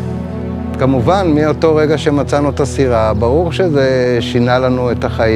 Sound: speaking in foreign language

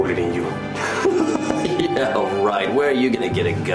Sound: laughing

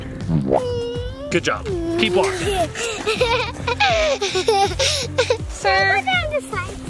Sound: mom and laugh softly

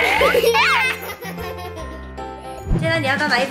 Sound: chuckling

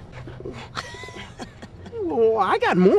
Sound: laughing

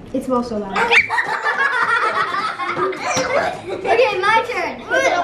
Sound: all laugh

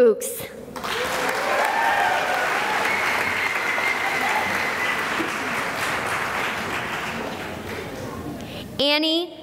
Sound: cheering and applause

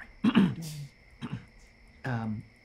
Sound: clears throat

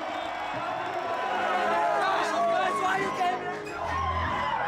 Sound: crowd cheering

